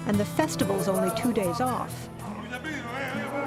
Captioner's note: speaking spanish